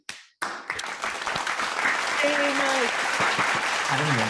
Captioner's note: audience clapping